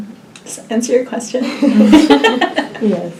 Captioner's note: all laugh